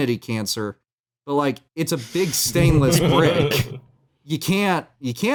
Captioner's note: laughs